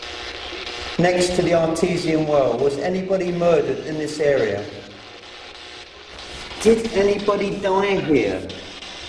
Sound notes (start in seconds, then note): 5.8 static buzzing; 8.8 static buzzing